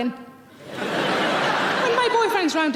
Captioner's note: audience laughing